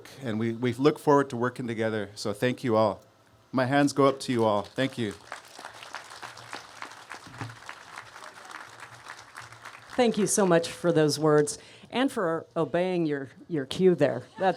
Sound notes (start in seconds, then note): 6.7 applause